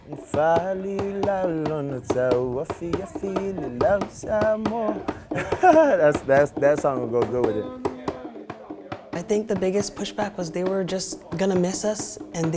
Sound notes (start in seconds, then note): 0.1 singing; 5.1 laughs